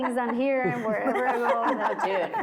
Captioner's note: laughing